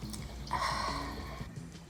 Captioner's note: sighs